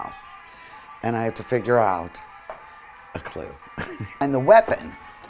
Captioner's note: laughing